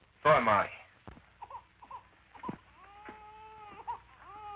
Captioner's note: baby wailing